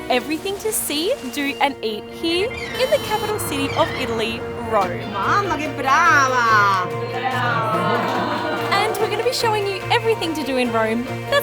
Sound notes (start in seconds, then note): 5.4 woman speaking Italian